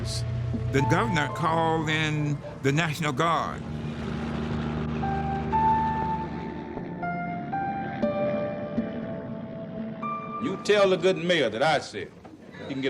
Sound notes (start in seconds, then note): 3.3 helicopter flying overhead